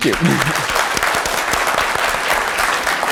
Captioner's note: applause